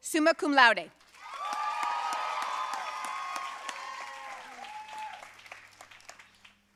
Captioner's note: audience cheering and applauding